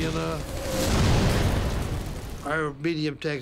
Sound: cannon shots exploding

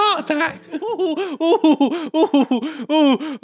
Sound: Stalin laughs

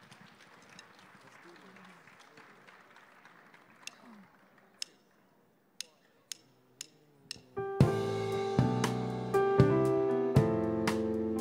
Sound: applause

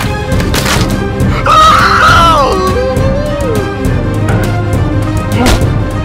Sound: mask clatters; Shaggy screams; fists thumping

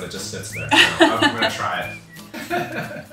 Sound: laughs

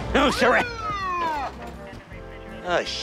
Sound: siren

